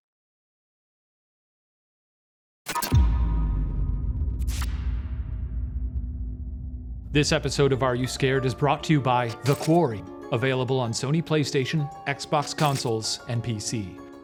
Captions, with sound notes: (eerie chiming) (beeping) This episode of "Are You Scared?" is brought to you by "The Quarry," available on Sony PlayStation, Xbox consoles, and PC.